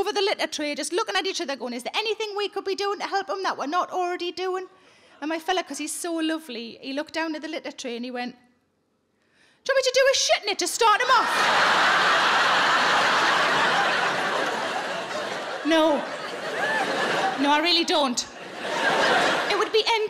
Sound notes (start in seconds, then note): 11.1 audience laughing